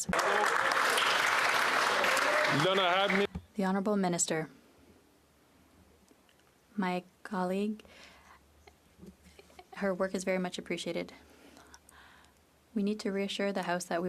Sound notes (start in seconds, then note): 4.0 applause